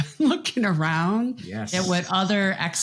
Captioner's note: chuckles